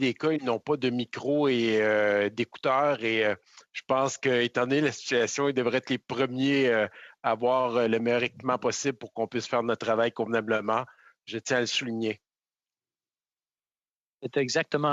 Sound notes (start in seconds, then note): 0.3 speaking French; 5.5 speaking french